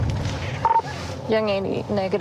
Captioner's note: radio beeps